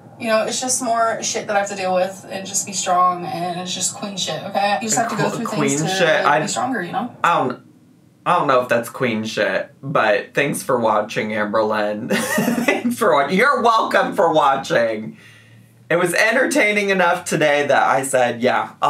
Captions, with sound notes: You know, it's just more shit that I have to deal with. And just be strong, and it's just queen shit. Okay. You just have to go through things to make you stronger, you know? - I don't know if that's queen shit. But thanks for watching Amberlynn. (laughing) You're welcome for watching. It was entertaining enough today that I said, yeah,